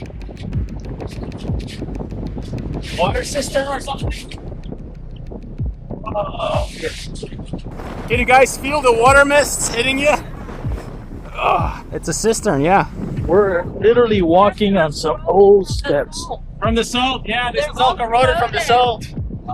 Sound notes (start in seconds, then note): 5.9 groans; 11.3 grunts